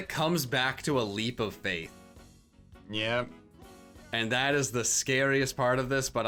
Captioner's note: none